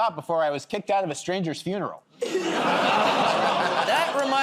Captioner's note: laughter